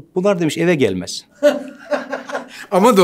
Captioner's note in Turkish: Gülüyor